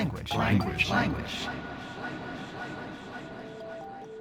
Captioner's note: echoing